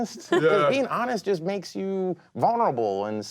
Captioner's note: laughing